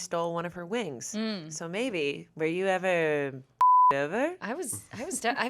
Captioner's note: beep